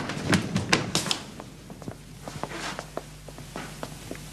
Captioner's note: footsteps approaching